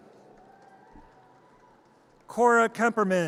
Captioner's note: audience cheers